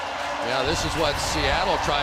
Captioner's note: cheering